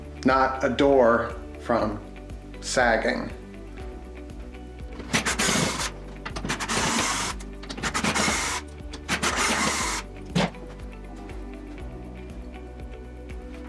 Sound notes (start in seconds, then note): 5.1 electric screwdriver buzzing